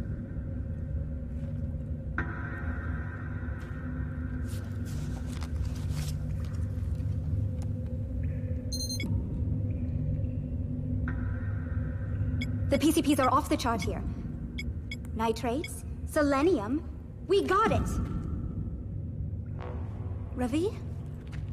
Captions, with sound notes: [eerie music] [device blipping] The PCP's are off the chart here! Nitrates, selenium, we've got it! Ravi?